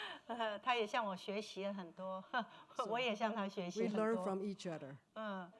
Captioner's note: speaking Mandarin